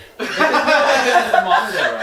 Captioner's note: all laughing